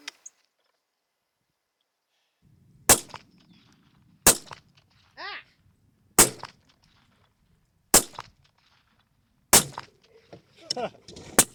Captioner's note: gun shots; laughter